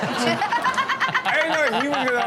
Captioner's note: everyone laughs